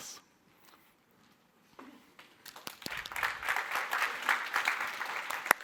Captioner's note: applause